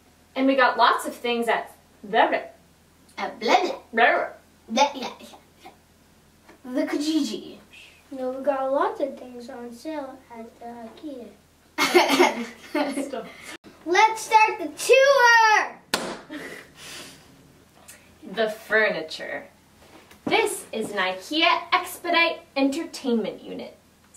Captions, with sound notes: And we got lots of things at ... blah blah At blah blah. Blah blah. Blah blah. The Kijiji. Shhhhh. No. We got lots of things on sale at the Ikea. [Laughing] Good stuff. Let's start the tour! [Giggle] The furniture. This is an Ikea Expedit entertainment unit.